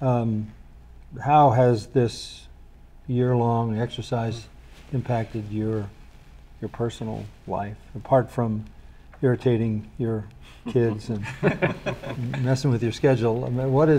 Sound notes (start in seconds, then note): 10.7 all laughing